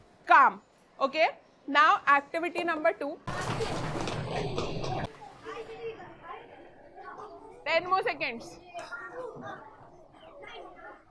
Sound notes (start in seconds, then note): 3.3 kids chatting and giggling